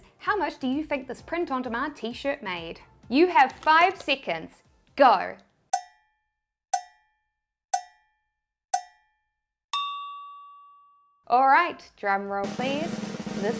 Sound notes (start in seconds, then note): 6.0 cow-bell clanging; 12.4 drum rolling